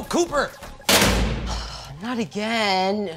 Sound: shooting noise

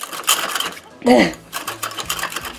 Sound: grunts

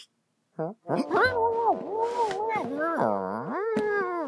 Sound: muffled cat growling

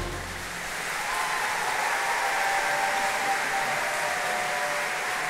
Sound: audience cheering and applauding

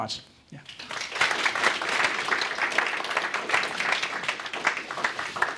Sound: audience applauding

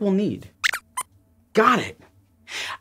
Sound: squeaks squeaks

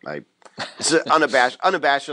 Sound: laughs

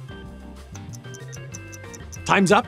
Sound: ticking clock

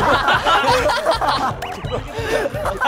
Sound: rolling in laughter

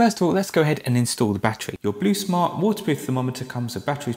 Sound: reverb

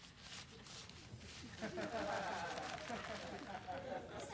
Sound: laughter

